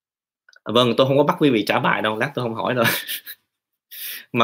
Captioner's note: chuckle